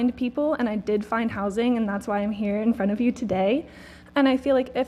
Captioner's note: none